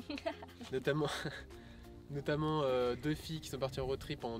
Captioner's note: laughs